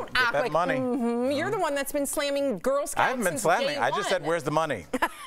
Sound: laughter

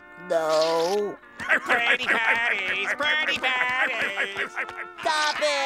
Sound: laughing

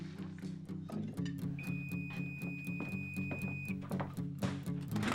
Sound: beeping

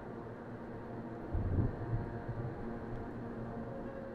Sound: thunder rumbles

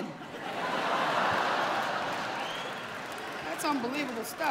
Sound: laughter

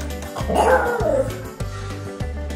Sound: howling

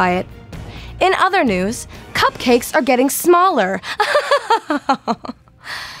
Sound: laughter

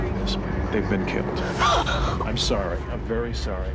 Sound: gasping

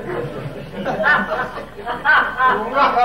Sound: audience laughing

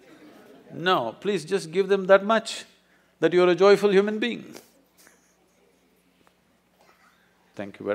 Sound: laughs

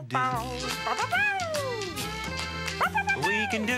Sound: barking

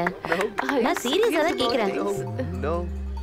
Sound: beeps

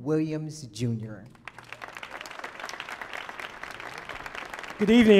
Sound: audience applauding

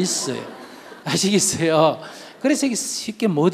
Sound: audience laughs

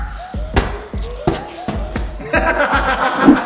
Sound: giant cube hits floor; laughs

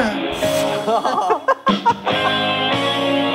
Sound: hahaha

